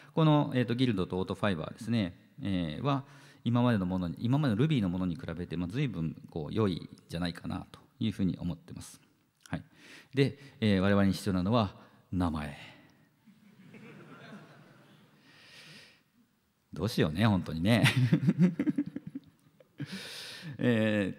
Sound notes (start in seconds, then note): 13.3 crowd laughs